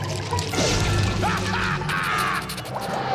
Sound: evil laugh

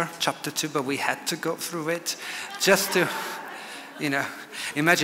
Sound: audience laughs

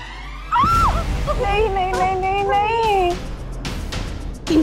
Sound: screaming

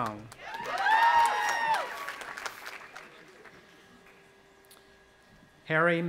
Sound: audience applauding and cheering

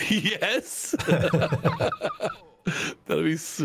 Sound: laughing

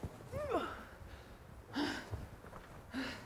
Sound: grunting

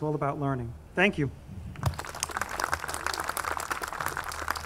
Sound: audience clapping

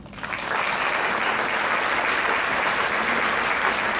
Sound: crowd clapping

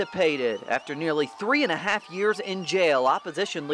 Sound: cheering and applause

